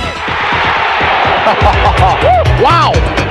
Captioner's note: chuckles